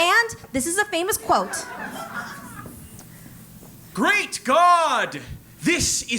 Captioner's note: laugh